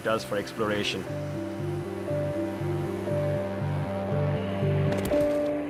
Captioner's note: whirring